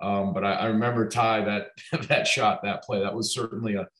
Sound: laughing

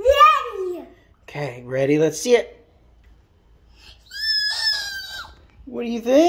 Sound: squeals delight

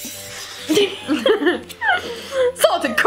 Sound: laughing

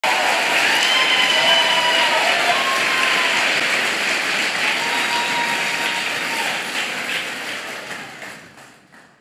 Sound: applause

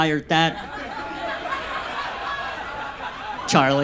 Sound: audience laughs

